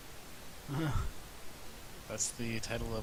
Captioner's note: tired chuckle